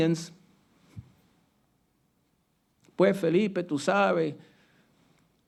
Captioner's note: speaking Spanish